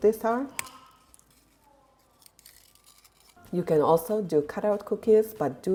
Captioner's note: crisp cracks